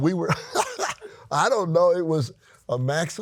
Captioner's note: laughs